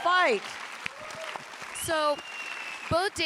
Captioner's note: audience applauding and cheering